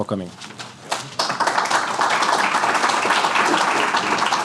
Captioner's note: audience clapping